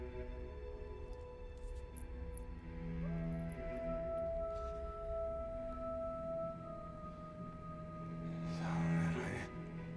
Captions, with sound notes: (chain rattling) - Solomon, I really.